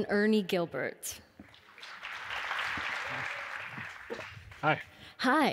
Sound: audience applause

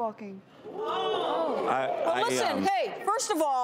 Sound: audience jeers

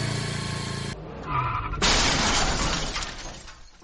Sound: bike Crashes

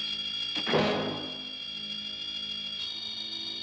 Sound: door creaks; suspenseful music; door closes; suspenseful music

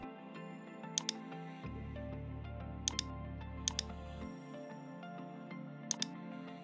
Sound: gentle instrumental music; mouse clicking

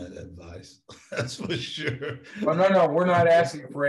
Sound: laughs

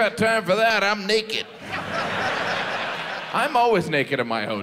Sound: audience laughs

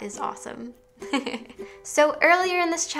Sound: laughs

